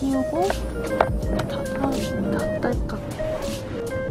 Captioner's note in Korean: 딸깍 소리나게